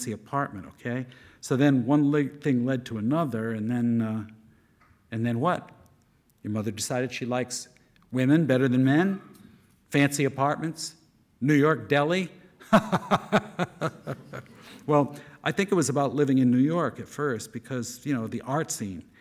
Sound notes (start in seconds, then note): 12.7 laughing